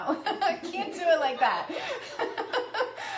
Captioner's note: laughs; laughing